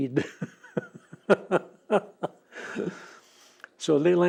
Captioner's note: laughs